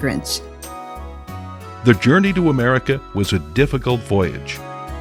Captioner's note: voiceover